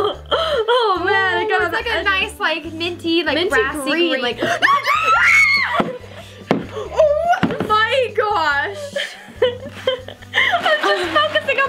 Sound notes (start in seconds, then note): 4.4 both girls shriek; 9.5 laughing